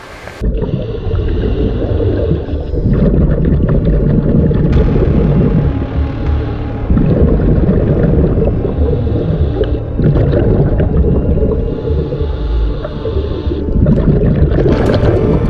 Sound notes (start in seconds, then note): 0.0 diver breathing; 0.8 water rippling